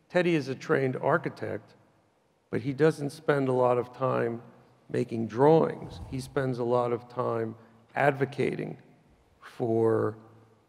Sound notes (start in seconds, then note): none